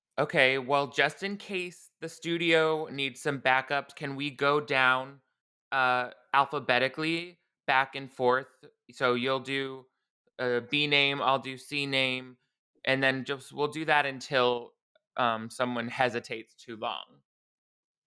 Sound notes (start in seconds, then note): none